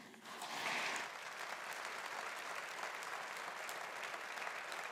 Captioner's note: audience applauding